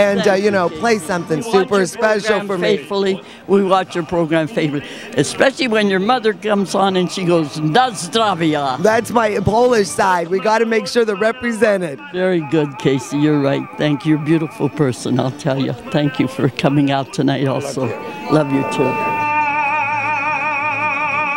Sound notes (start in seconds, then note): 7.6 speaks in foreign language; 21.1 lively music